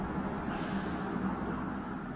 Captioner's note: noisy city